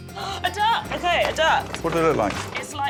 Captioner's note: gasps